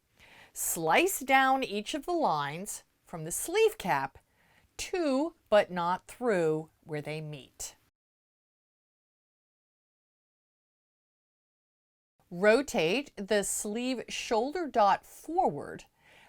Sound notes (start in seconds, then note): 7.9 no Sound Present